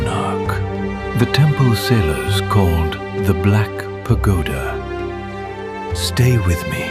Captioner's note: thoughtful